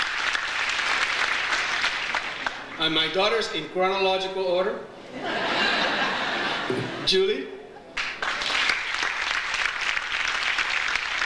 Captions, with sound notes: And my daughters, in chronological order. (audience laughs) Julie. (audience applauds)